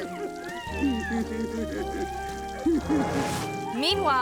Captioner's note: man laughing